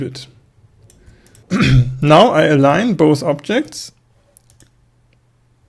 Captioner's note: cough